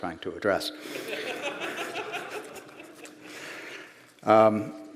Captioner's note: laughter